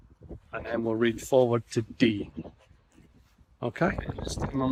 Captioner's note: extreme wind noise